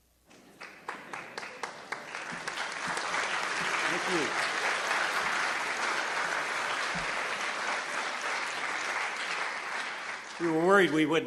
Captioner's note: applause